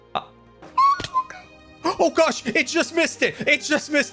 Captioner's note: squeaks